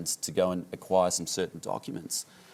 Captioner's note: none